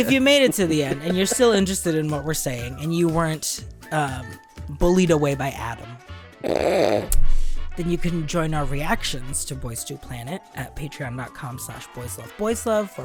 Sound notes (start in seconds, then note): 6.4 snorts